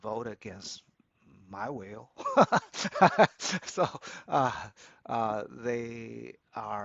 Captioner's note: laughs